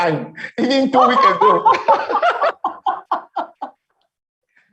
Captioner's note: laughing